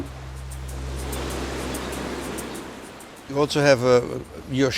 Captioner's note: waves crashing